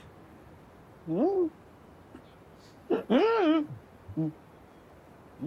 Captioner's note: making funny sounds